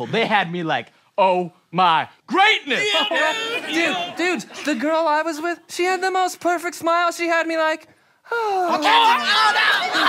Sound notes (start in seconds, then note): 8.2 sigh